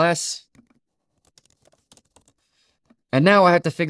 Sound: keyboard clacking softly

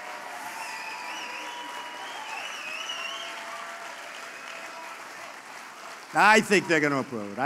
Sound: applause

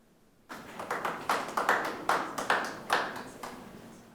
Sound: clapping

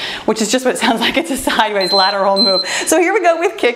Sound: timer beeping

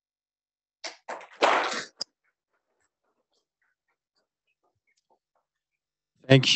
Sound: applause

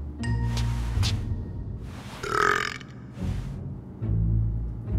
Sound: belching

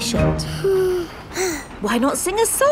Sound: both sigh

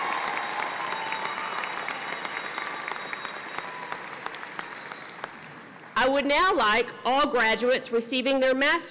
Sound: applause

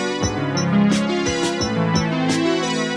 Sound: none

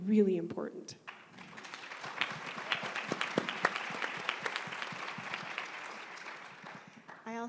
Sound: applause

